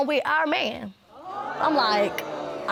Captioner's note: audience gasping